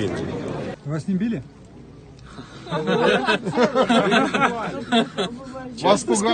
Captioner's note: incredulous sarcastic laughter